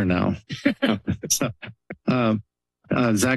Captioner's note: laughter